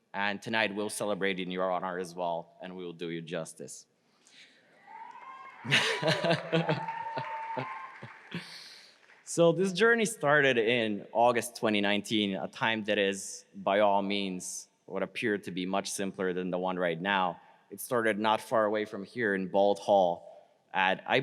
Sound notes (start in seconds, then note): 4.8 crowd applauds; 5.6 laughs